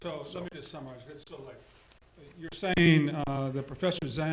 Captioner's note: speaking quietly